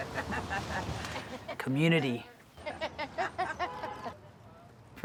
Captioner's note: laughter